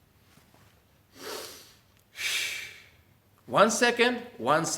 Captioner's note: air hisses